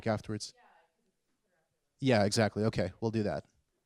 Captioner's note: professor speaking off mic